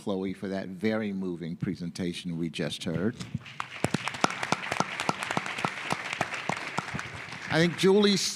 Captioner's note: applause